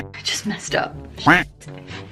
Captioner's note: quack sound effect